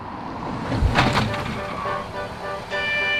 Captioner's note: faint car speeding; car screeches to a stop